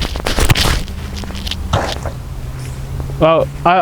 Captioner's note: dull thud